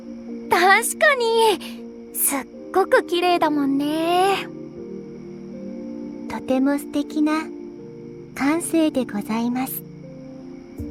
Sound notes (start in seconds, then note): none